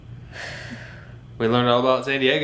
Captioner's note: exhaling